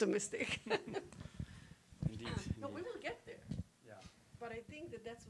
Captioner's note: laughing